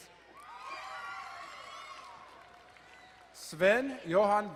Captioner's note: crowd cheering and applauding